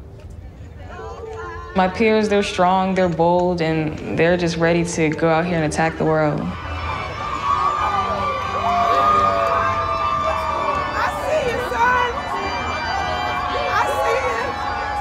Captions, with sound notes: My peers, they're strong, they're bold. And they're just ready to go out here and attack the world. (audience cheers) (upbeat music) - I see you, son. I see you.